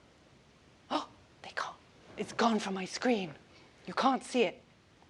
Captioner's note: gasps